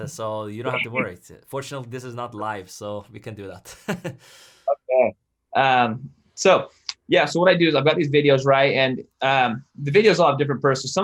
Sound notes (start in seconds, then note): 4.1 laughs